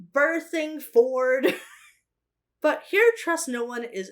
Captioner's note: chuckles